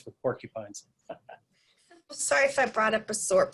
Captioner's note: laughing